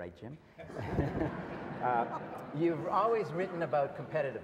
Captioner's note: audience laughs